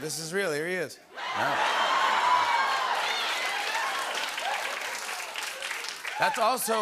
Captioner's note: cheers and applause